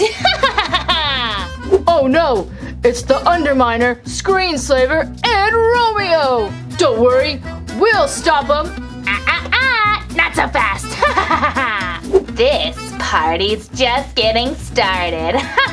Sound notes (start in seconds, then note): 0.0 evil laughing; 10.8 evil laughing; 15.4 evil laughing